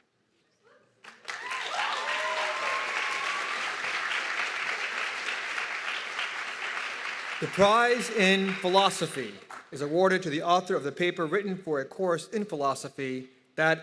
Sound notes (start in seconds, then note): 1.0 audience clapping and cheering